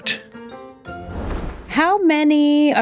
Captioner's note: screen whooshes